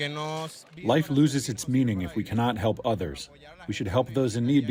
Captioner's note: through translator